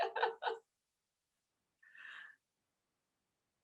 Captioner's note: laughs